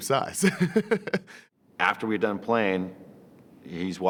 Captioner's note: laugh